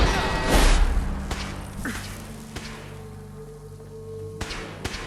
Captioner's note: loud explosion; gunshots firing